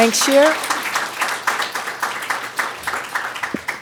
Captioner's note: applause